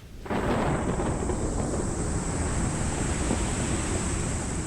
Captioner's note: thunder clapping